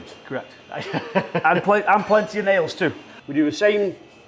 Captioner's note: laughs